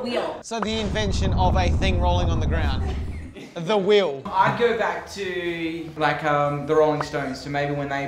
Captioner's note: laughing